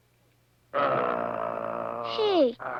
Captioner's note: growling